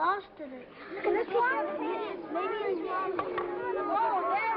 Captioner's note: children talk over each other